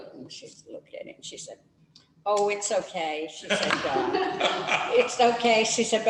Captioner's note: laughter